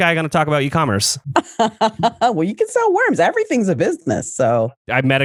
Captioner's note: laughs